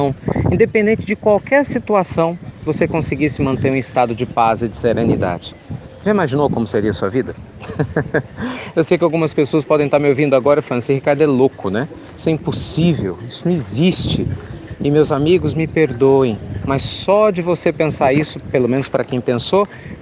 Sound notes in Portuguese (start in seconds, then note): 7.6 Risos